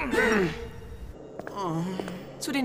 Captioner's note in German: Verärgerte Laute; Er seufzt